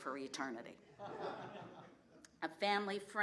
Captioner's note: laughter